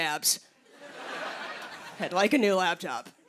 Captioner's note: laughter